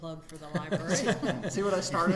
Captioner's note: everyone laughing